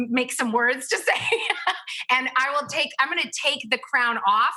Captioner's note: laughs